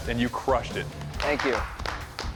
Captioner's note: clapping